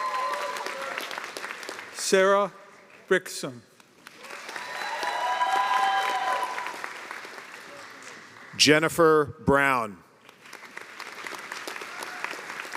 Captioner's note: cheers and applause